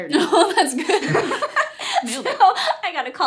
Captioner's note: laughter